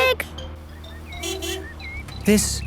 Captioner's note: honking